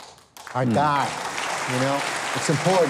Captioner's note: crowd clapping